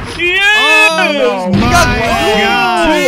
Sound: shotgun blast; shotgun blast

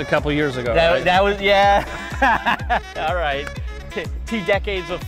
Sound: laughs

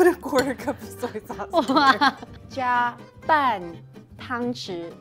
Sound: speaking in mandarin

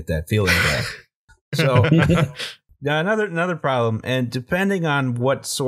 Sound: laughter

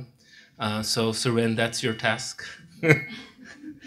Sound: laughs

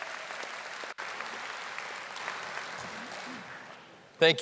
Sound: audience applauding

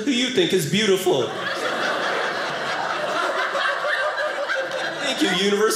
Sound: audience laughing

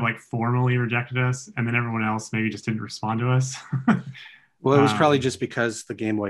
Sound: laughs

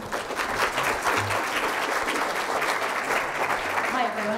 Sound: crowd applauding

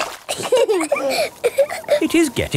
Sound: both laughing

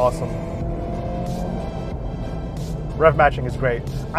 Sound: engine revving

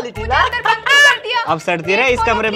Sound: laughing

